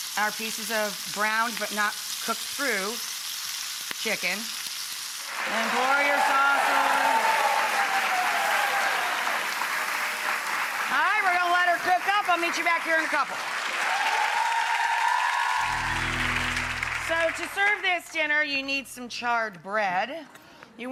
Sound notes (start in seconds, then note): 8.3 audience cheers; 13.2 audience cheers; 13.8 upbeat music